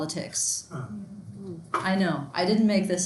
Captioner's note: students groan